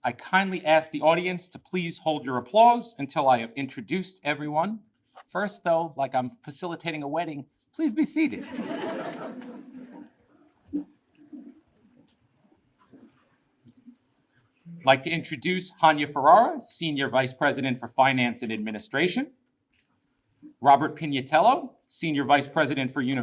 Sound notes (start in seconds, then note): 8.3 audience laughs